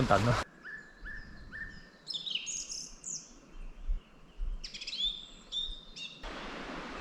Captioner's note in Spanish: pájaros cantando